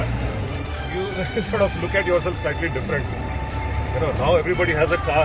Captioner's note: laughs